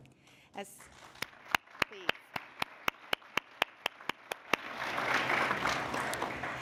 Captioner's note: applause